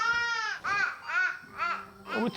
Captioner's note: babbling happily